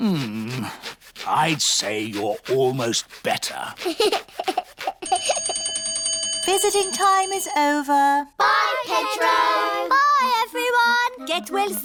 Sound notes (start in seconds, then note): 3.7 giggles; 5.0 bell rings